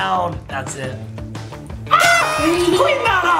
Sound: horn toots

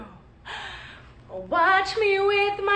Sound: gasping

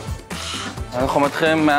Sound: grunts

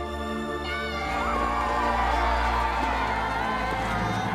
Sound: cheering

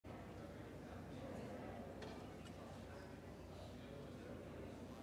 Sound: background chatter

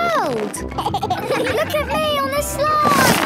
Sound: giggles

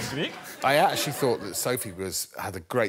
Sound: speaking Sweden

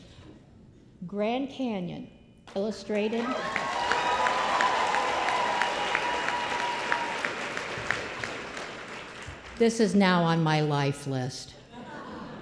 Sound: applause

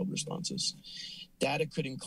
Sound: inhales

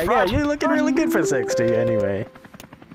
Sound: announcement chime, helicopter

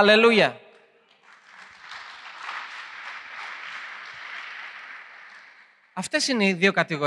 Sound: applause

